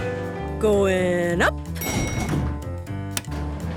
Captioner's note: elevator pings